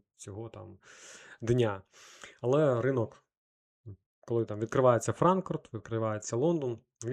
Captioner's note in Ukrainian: сопіння